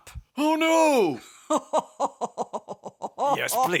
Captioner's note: yet more evil Phasma laughter